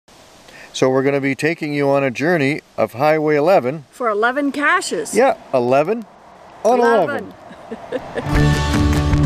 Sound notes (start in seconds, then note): 7.4 chuckles